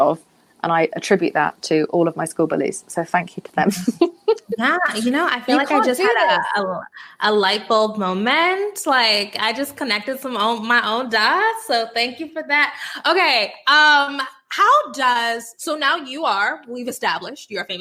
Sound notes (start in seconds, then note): 5.4 Jameela laughing